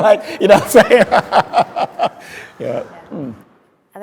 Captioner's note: speaker laughing